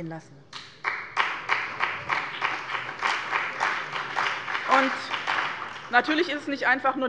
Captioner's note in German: Beifall bei dem BÜNDNIS 90/DIE GRÜNEN und der CDU